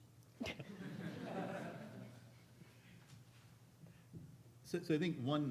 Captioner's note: audience laughing